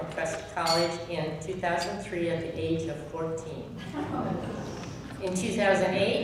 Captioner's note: audience murmurs